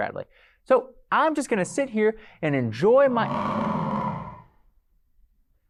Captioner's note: animal noise